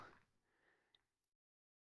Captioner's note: silence